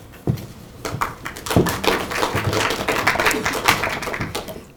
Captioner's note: applauding